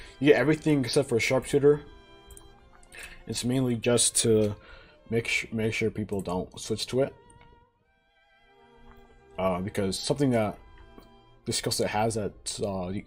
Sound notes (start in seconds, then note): 5.0 stutter; 8.6 sips water